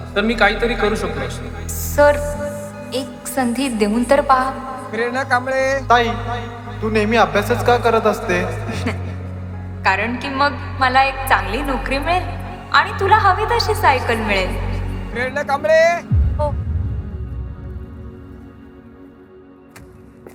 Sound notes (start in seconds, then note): 9.0 Prerna chuckling